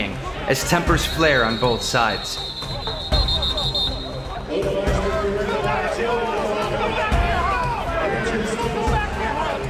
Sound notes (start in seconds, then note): 2.6 refs whistles; 4.4 players are yelling at each other